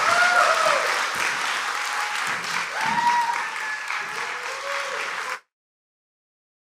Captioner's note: applause